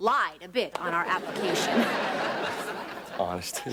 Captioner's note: audience laughing